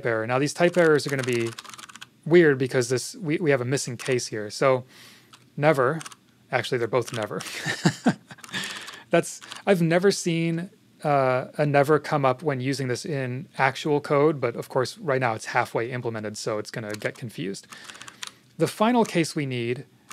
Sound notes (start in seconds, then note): 7.4 laughs